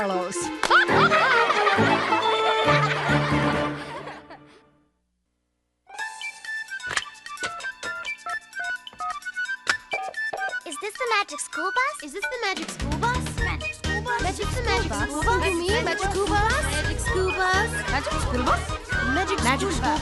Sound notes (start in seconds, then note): 0.6 laughter; 6.9 buttons beeping